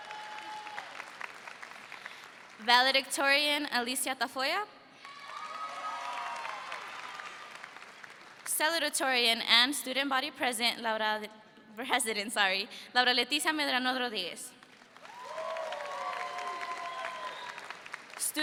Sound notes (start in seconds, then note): 0.0 audience cheers; 5.0 audience cheers; 15.0 audience cheers